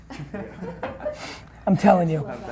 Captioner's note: laughing